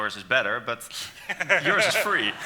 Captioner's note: laughing